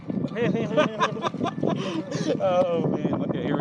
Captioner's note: laughter